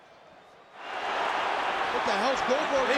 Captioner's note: audience chattering